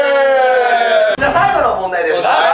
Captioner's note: laughs